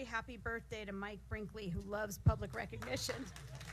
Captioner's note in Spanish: aplausos